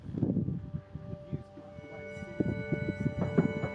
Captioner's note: wind whistles